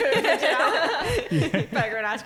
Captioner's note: laughing